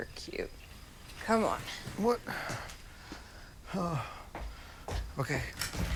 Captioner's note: sighs